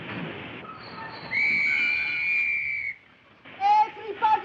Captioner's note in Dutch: remmen piepen; fluitje blaast